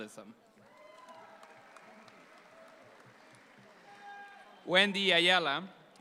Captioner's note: audience applauds